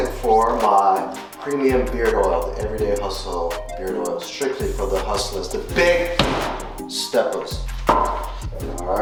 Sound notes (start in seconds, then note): 5.7 foot stomps